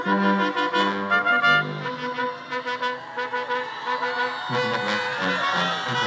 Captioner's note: attendees applauding and cheering